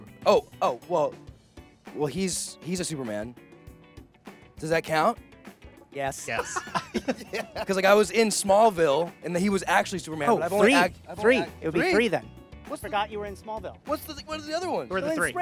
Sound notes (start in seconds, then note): 6.2 laughing